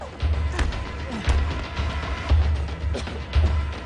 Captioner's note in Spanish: Golpes